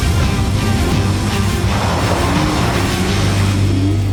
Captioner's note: more epic expolsion